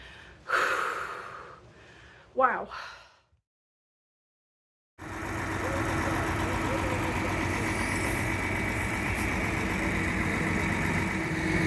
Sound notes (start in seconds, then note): 0.0 deep exhale; 5.0 loud truck noise